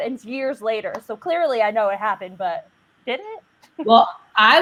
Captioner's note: laughs